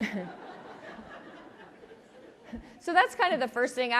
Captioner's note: audience laughs